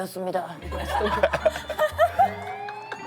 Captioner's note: haha